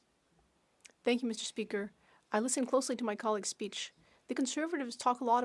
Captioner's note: speaking French